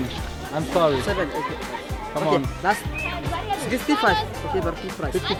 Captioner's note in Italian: Inglese